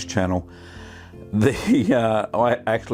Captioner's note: chuckles